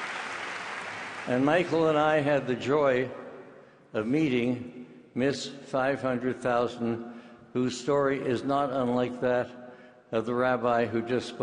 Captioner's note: clapping